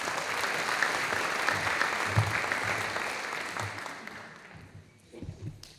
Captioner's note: audience applauding